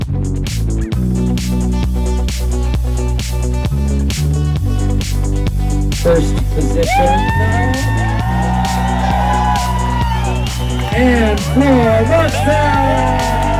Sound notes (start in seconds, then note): 7.6 cheering; 13.3 people cheering